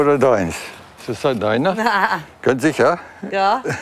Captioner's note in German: lacht